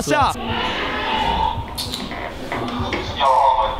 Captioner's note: staff screaming NICE next door